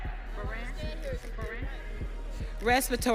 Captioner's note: audience cheering